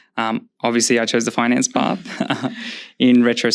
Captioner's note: laughs